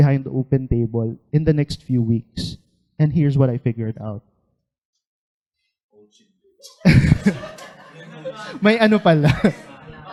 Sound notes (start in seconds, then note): 6.6 laughter; 9.2 laughter and murmurs